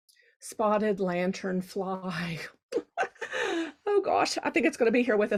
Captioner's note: laughing